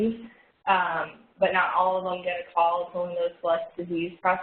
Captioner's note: audio warps